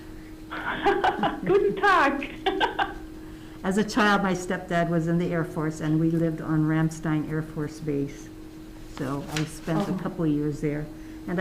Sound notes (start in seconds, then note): 0.5 laughing